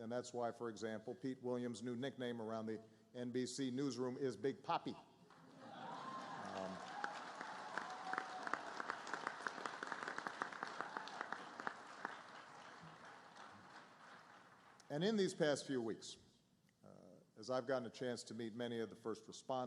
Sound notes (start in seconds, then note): 5.3 applause